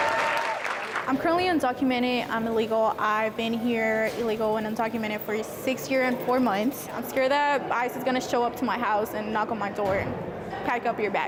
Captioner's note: applause